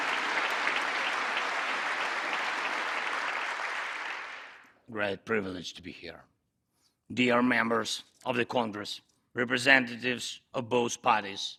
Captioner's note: applause